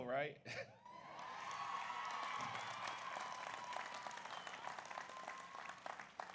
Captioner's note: audience cheers; audience applauds